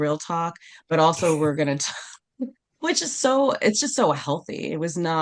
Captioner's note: laughs